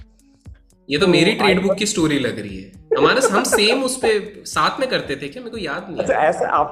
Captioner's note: both are laughing